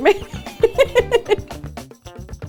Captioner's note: chuckles; jazzy laid back music